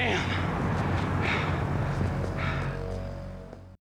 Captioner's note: panting